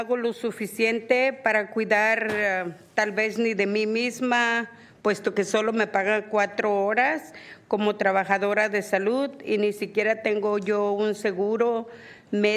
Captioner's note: speaking spanish